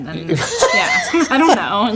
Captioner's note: people laughing